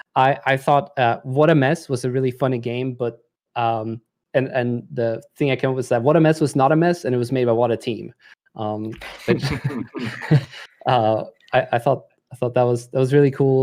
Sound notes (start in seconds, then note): 9.0 laughter